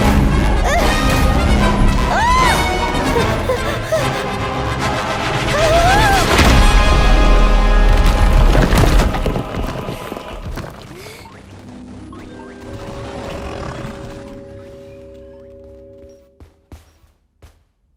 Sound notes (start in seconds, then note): 0.0 shouting, panting; 0.3 dramatic music plays; 11.5 Kaufmo growls; 11.5 curious music plays